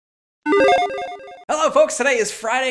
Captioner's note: logo beeps